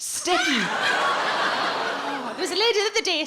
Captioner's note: audience laughs